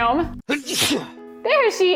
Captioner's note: sneezing sound